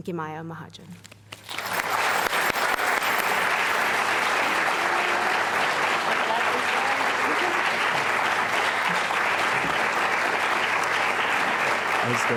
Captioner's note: applause